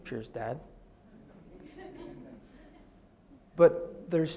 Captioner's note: audience laughs